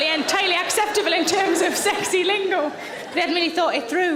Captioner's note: audience laughing